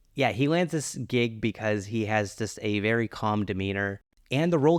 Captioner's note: none